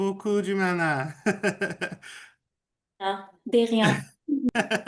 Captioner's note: laughs